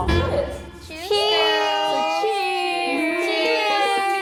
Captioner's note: cheers